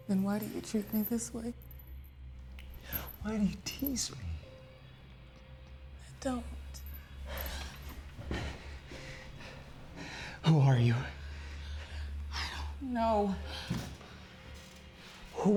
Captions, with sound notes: - Then why do you treat me this way? - Why do you tease me? - I don't. - (panting) Who are you? - I don't know.